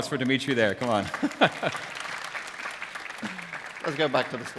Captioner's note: applause